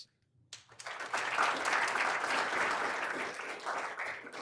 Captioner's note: all applauding